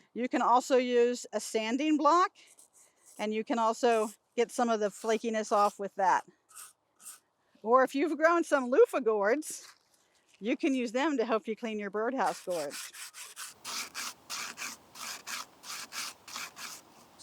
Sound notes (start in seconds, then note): 12.2 loofah scratching